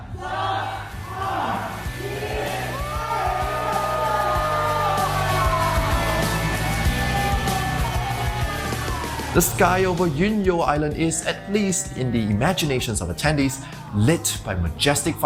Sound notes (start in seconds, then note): 1.6 cheer; 1.6 counting down